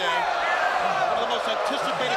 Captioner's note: crowd cheering